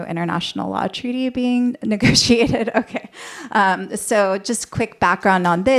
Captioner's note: laughter